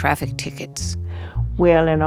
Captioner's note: soundbite of archived recording